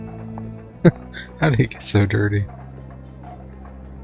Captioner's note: chuckling